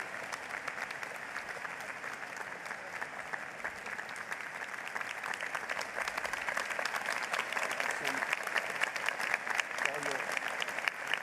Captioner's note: applause